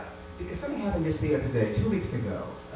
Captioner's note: none